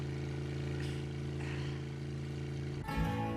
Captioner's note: Bill exhales; upbeat music